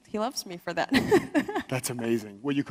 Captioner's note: laughs